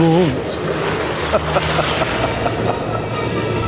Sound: laughing

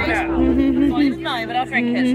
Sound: laughing

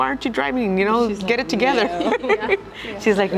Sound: laughs

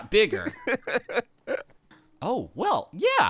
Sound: laughing

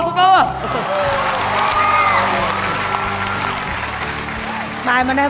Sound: cheer and applause

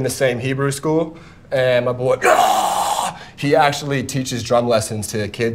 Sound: roaring

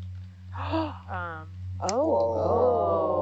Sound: scientist gasps

